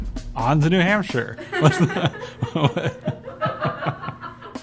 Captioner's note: laughter